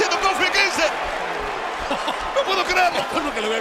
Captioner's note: laugh